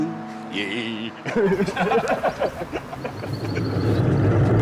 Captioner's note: laughing